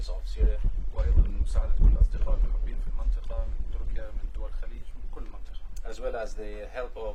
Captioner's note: speaking Arabic